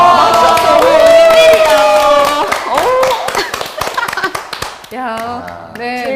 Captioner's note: everyone is clapping like seals